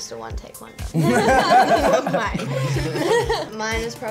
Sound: others laugh

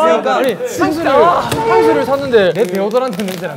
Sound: boiling

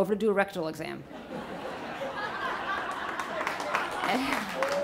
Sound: audience laughs

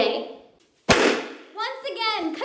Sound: pop sound

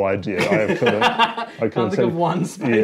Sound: laughs

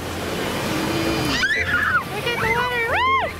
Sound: kids scream

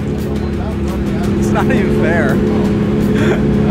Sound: chuckling

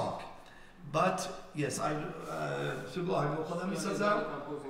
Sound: speaking in farsi

